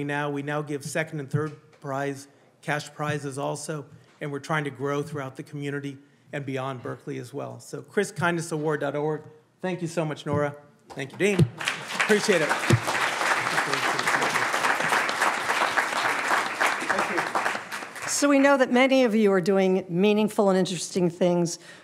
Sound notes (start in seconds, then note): 13.9 audience applauding